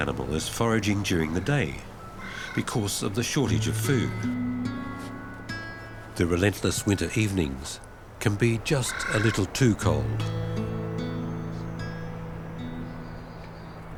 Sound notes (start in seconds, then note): 2.0 bird squawks; 8.7 bird squawks